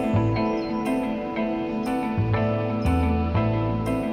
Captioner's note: birds chirping